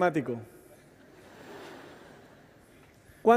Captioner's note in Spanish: Risas